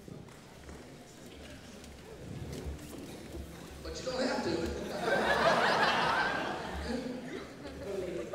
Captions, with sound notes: (murmuring) But you don't have to. (audience laughs)